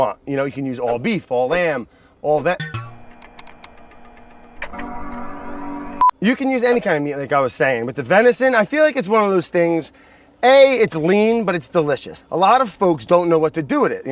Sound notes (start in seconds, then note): 2.5 computer error tone; 3.1 keyboard clicking